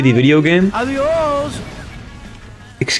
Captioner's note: spanish From Above